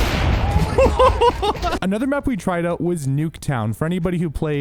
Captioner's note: gunshots